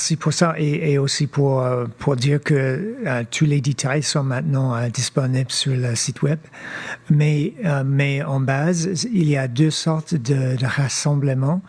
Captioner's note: speaking French